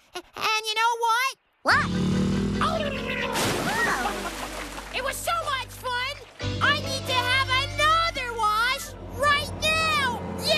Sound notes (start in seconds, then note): 3.2 splash!; 3.7 giggling & Gurgling